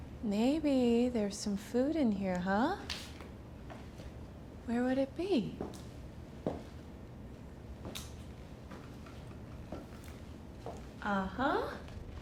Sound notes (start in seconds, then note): none